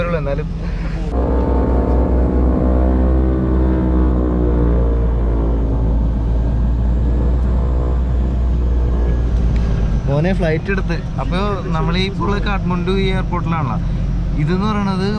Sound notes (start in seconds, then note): 0.1 aircraft sound